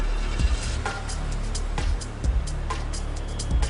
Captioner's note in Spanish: Ruido del motor del auto